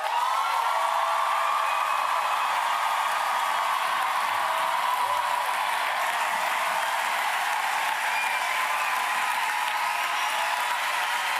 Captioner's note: applause